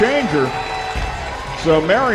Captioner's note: crowd